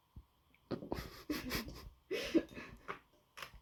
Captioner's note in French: rires étouffés